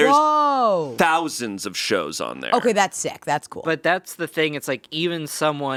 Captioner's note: none